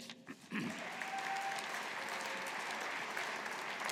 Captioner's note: audience applauding